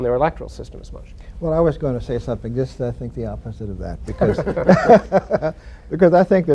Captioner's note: laughter